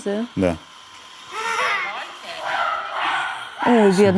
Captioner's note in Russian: встревоженные обезьяньи крики